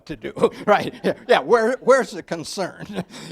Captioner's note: laughs